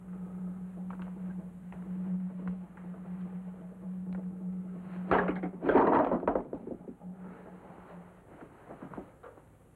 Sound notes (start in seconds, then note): 0.1 drums beating in distance; 5.0 objects clattering